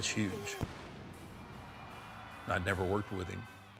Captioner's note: explosion booms